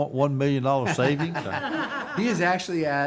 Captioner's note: group laughing